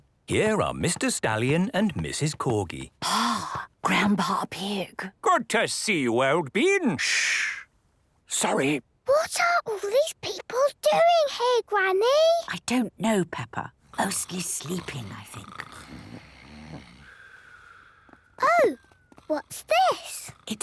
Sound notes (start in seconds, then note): 7.7 whispering; 9.1 quietly; 16.2 snoring; 20.5 whispering